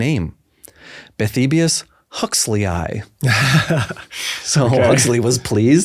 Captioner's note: laughs